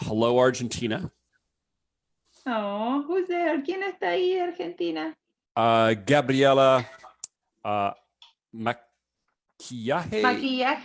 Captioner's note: speaking Spanish